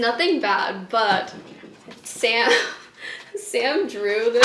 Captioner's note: laughing